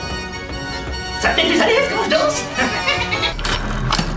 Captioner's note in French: rire de clown